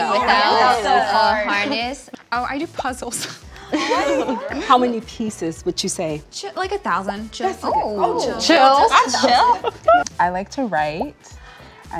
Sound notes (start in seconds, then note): 3.7 all laugh